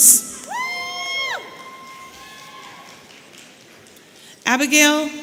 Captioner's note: audience cheering